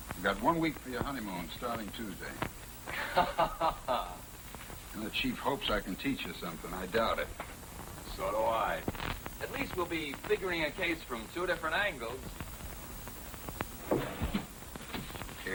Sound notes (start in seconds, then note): 2.9 chuckling